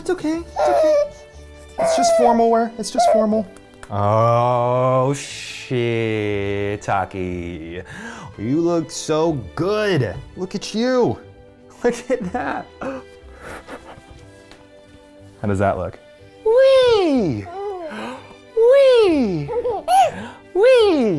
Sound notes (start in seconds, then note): 8.1 gasps; 19.3 giggles